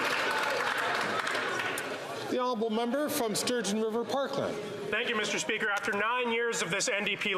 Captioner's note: some Applause